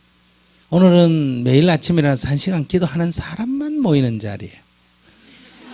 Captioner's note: audience Laughter